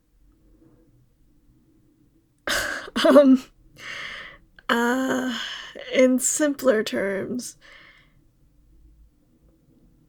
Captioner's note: laughing